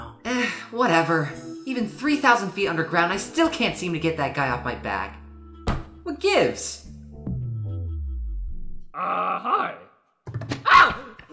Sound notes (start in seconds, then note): 5.6 thud